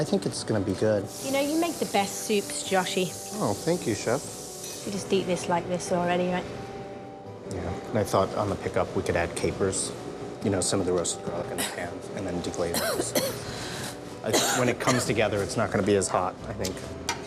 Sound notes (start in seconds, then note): 14.2 coughs